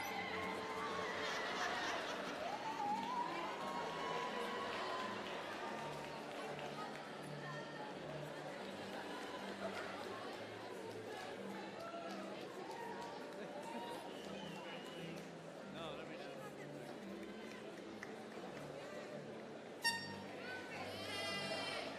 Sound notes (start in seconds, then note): 0.0 cheering; 1.0 laughter; 2.8 crowd Noise